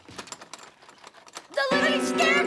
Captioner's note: doorknob rattles